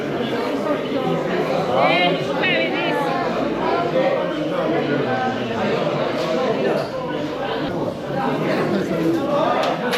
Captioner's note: people Speaking